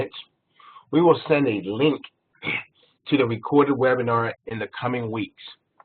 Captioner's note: cough